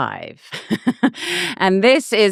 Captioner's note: laughing